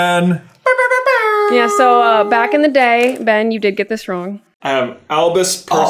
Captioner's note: air horn noises